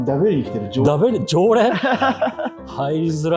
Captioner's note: laughing